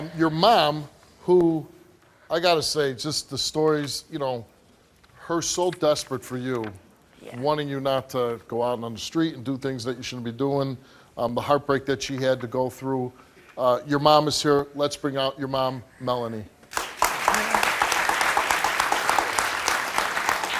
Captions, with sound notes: Your mom, I gotta say just the stories, her so desperate for you, wanting you not to go out on the street and do things that you shouldn't be doing, the heartbreak she had to go through, your mom is here, let's bring out your mom, Melanie. (crowd applauding)